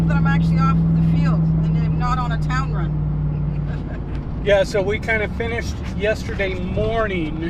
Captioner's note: laughs